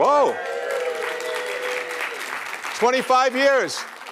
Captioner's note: applause